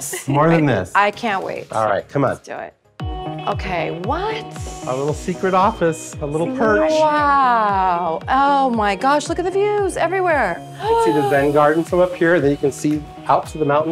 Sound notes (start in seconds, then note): 3.4 calm music; 10.8 gasping